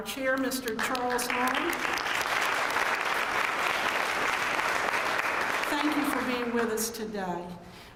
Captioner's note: applause